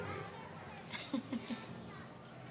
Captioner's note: laughs